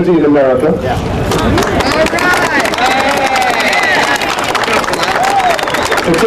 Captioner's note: applause